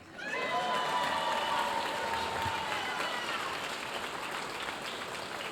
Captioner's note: audience cheering and applauding